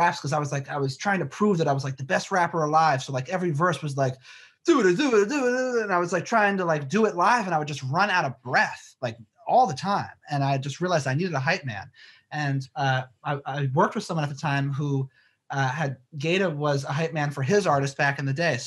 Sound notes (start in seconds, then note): 4.7 fumbles